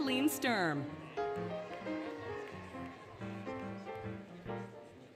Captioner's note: applause, Cheering, Music